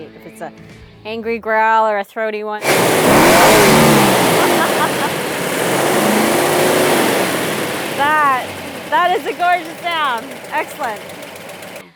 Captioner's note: laughs